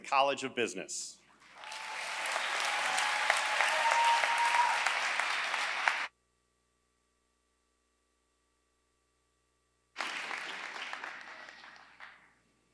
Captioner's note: applause